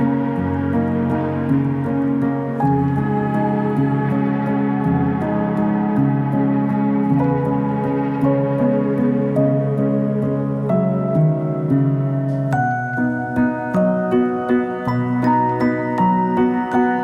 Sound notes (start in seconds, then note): none